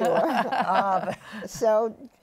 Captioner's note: laughter